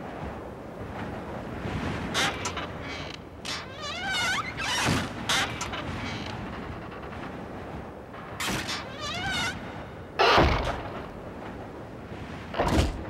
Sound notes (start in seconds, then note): 1.7 door creaking; 10.2 body thumping